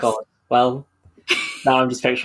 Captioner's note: laughs